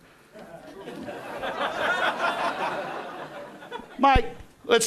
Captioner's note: crowd laughing